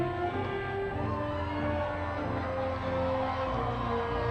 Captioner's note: audience cheering